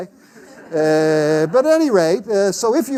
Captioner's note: class laughs